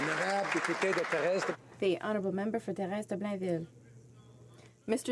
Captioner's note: some Applause